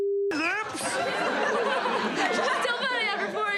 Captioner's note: laughter